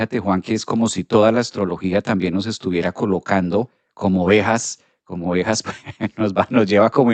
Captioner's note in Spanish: risas